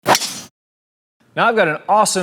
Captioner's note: golf club thwacks